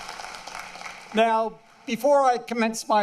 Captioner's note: applause